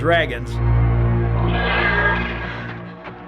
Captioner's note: dragon screeching